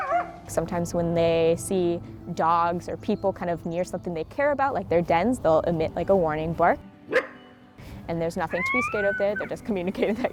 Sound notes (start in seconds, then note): 7.0 coyote barking